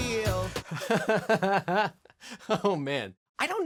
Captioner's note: laughing